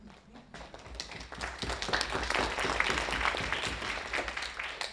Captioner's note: audience applauding